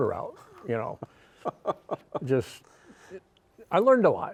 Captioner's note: laughs